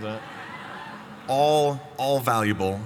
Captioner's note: laughter